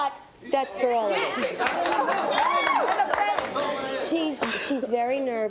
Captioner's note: audience cheers